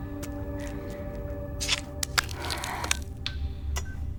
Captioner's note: flesh tearing; chip beeping